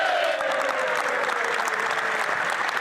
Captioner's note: applause